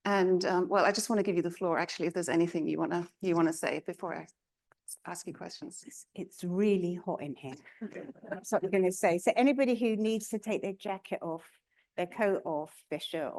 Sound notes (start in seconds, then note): 7.8 chuckling